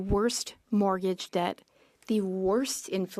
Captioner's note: speaking French